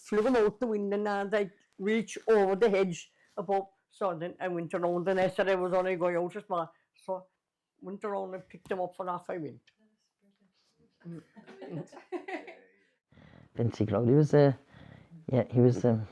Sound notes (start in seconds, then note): 9.0 laughter